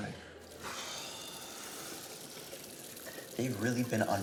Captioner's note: Alex sighing